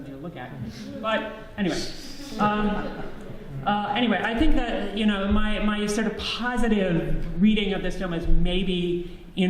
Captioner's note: audience laughs